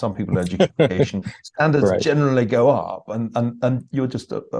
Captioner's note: laugh